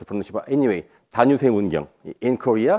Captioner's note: speaking in foreign language